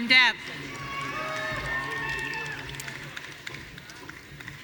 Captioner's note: audience cheering